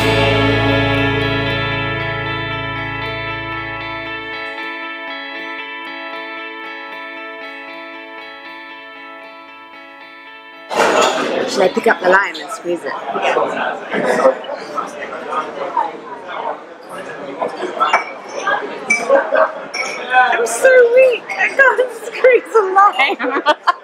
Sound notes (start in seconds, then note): 0.0 festive music; 14.7 general murmur of conversation and crockery clinking in background; 23.0 laughing